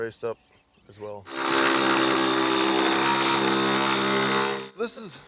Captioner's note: drills whirring